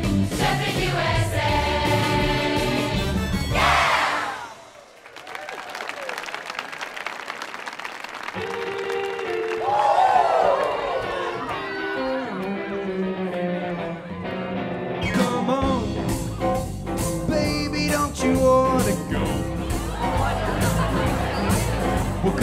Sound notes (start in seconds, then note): 4.6 audience applauding; 11.2 mellow blues music